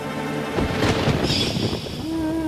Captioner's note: thunder rumbling